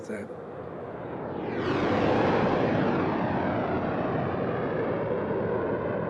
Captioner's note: jets roaring